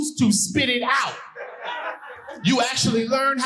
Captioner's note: audience laughing